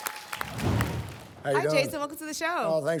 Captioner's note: applause and cheering; whoosh